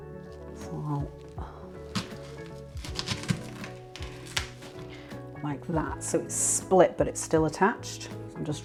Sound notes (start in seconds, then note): 5.8 chopping thunk